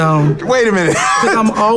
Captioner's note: laughs